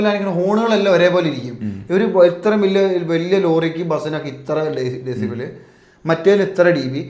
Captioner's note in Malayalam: തൊണ്ട ശരിയാക്കുന്നു